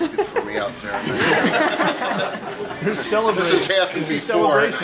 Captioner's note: audience laughs